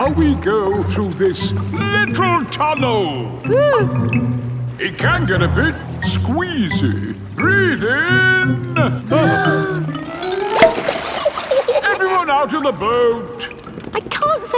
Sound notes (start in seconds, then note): 3.5 whimpers; 9.4 breathing in